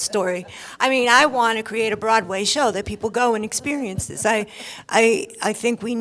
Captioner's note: laughter